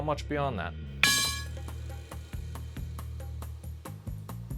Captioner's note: bowl rattling